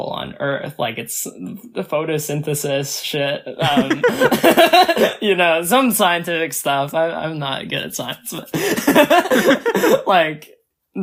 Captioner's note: both laugh